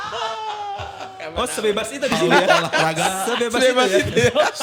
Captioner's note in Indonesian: tertawa